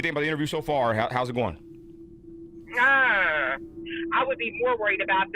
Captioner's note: groaning